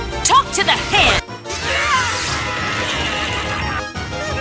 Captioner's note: exclaims; screaming; dizzy laughter